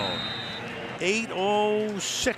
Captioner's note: whistle